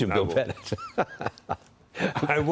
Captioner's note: laughter